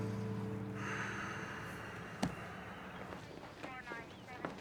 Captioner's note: sighs